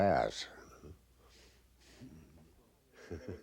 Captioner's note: chuckling